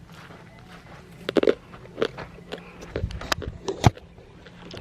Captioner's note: crunching from eating jojoba seeds